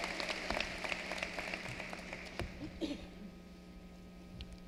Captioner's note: applause